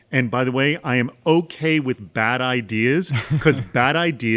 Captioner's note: laughs